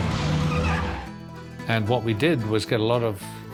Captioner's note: police sirens blaring